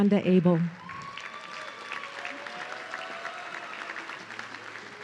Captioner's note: audience cheering